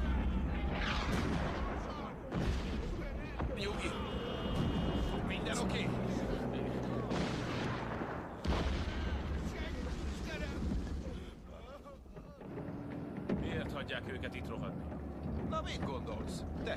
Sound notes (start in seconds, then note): 2.0 soldier sobbing